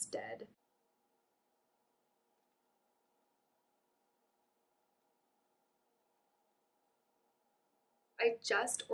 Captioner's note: no audio